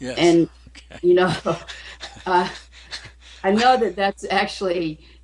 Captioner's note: laughs